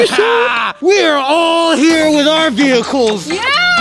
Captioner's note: manic laughing